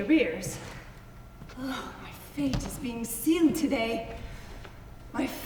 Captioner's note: sighs